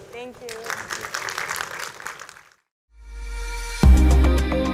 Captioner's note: audience claps; lively music